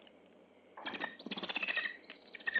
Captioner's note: bird chirping